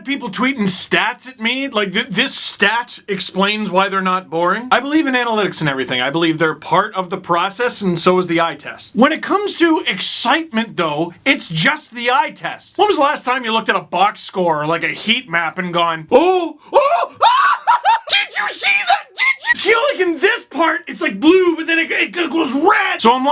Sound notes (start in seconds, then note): 16.7 screaming